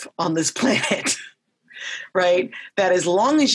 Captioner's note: laughs lightly